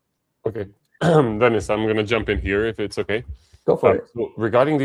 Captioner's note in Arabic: يُصفّي صوته